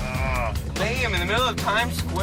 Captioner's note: growls